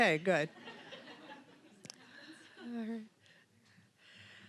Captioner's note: audience laughing